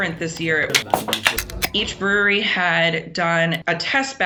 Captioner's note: can top popping